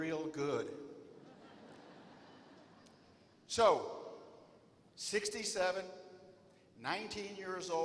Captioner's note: laughter